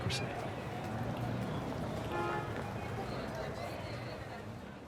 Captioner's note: people chattering, horn honking